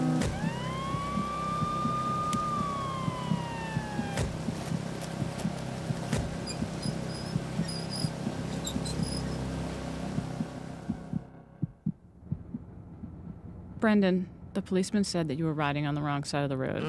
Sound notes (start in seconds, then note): 0.0 heart pumping; 0.1 car door closing and siren wailing; 6.0 car doors closing; 6.3 squeaking